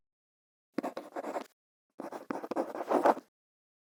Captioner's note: quill scratching